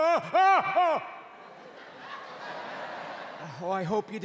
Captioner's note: yawning loudly